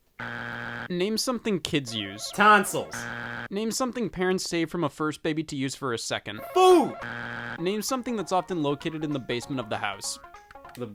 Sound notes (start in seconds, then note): 0.2 buzzer buzzing; 2.0 buzzer buzzing; 7.0 buzzer buzzing